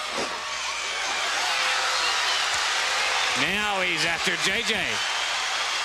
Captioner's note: crowd cheering